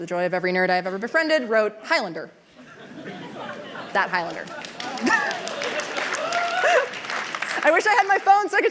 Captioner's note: cheers